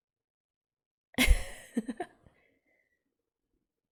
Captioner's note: laughs